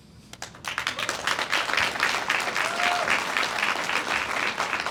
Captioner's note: audience applauds